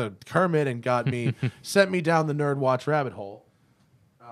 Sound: laughter

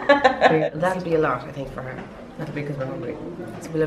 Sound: laughs

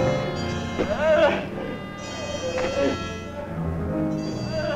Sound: Byron groaning

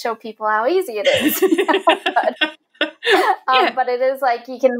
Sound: laughing

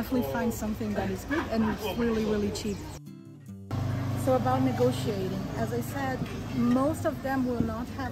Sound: haggling

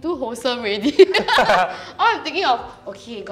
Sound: both laughs

